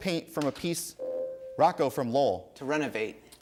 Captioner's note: ding